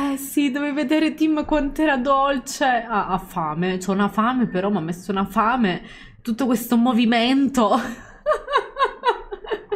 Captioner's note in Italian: Risate